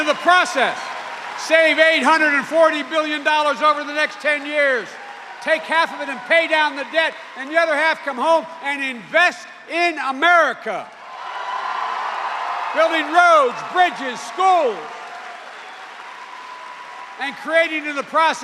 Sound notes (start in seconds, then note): 11.8 cheers and applause